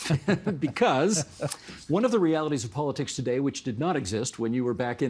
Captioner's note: laughter